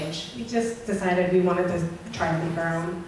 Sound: voiceover

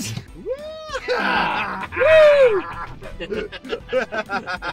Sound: shouts excitedly

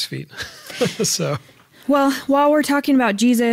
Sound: laughs

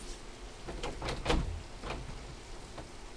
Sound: light knocking

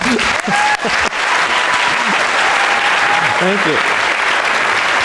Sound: audience claps and cheers

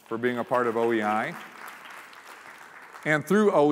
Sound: applause

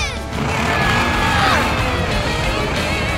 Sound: both grunting

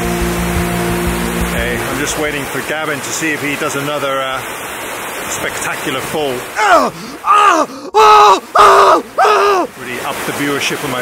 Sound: screaming

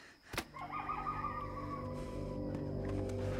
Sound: labored breathing

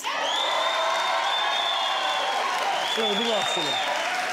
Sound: crowd cheering

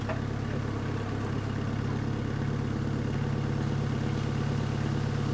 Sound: skid steer engine humming

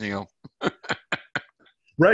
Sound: laughs

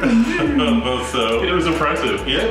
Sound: laughs

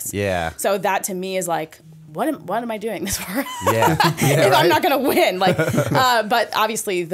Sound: chuckle

